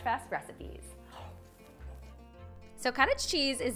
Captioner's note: inhales abruptly